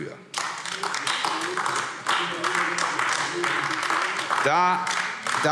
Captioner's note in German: Beifall AfD